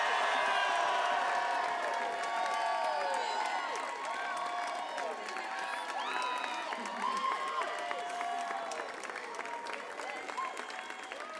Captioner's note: applause; cheering